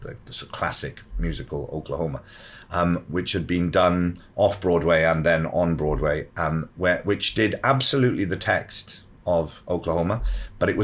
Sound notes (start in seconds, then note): none